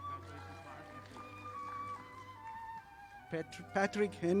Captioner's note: audience applauding